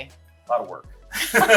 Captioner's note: laughter